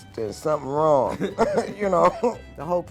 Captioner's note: laughing